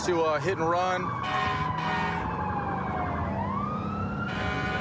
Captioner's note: emt sirens blaring